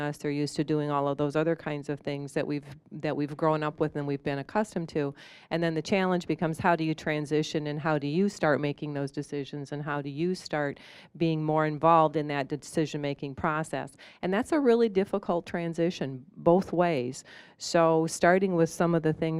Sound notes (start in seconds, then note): none